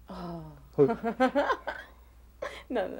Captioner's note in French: rires